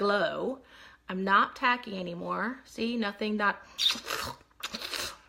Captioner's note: suction noises